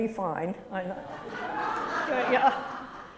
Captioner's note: laughter